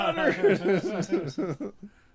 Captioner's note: laughing